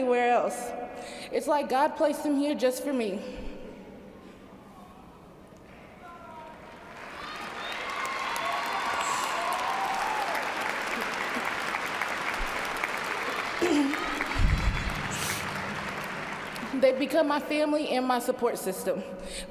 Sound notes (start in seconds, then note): 15.1 cheers and applause